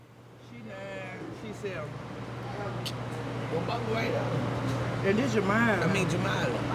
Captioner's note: indistinct conversation